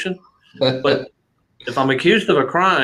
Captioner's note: laughter